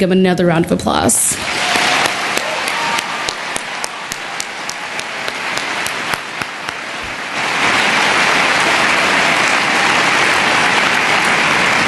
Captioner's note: cheering and Applause